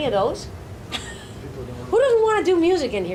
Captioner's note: laughs